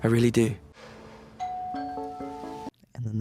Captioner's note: doorbell rings